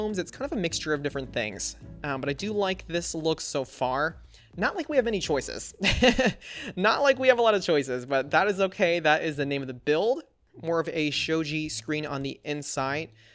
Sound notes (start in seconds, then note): 5.3 laughs